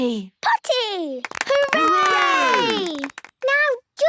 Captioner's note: cheering, clapping